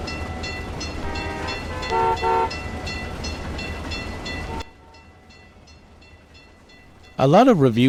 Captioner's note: ringing stops; railroad crossing ringing, then stops